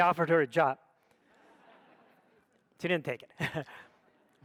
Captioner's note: audience laughs